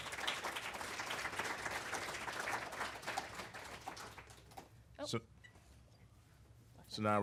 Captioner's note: applause